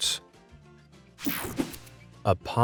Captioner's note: light, upbeat music; graphics whoosh